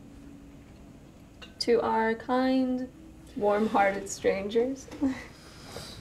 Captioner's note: laughs; Claire sighs